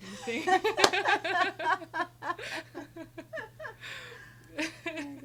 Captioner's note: laughing